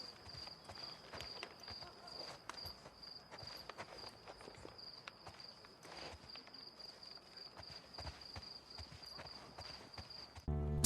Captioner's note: birds chirping